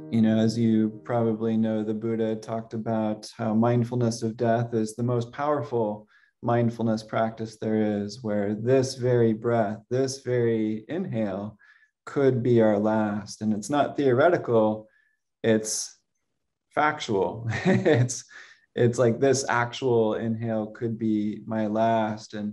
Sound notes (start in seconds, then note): 17.4 laughs